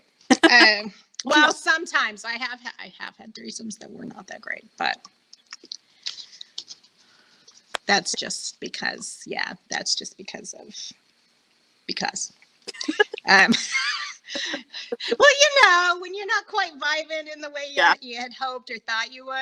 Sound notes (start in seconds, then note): 12.7 laughing